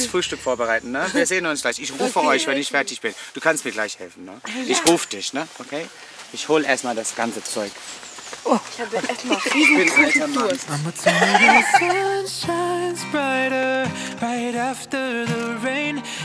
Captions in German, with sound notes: Ich gehe jetzt Frühstück vorbereiten. Ich rufe euch, wenn ich fertig bin. Du kannst mir helfen. Ich ruf dich. Ich hol erst mal das ganze Zeug. Ich bin ein alter Mann. (Lachen) (Entspannte Musik)